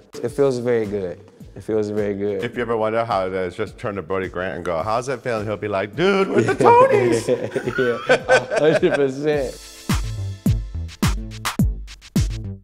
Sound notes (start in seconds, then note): 6.2 laughing; 9.8 funky music